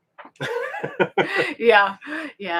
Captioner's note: both laughing